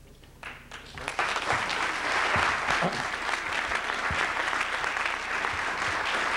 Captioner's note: applause